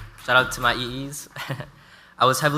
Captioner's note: chuckles